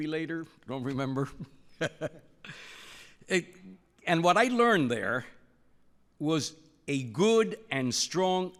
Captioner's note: laughs